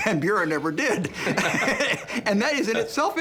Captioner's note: laughing